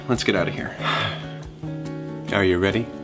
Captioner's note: sighs